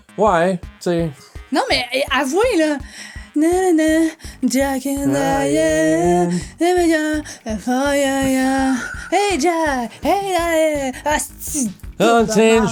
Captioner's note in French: se met a fredonner de manière nonchalante